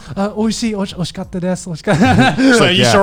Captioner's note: speaking in foreign language